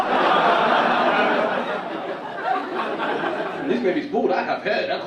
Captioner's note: audience laugh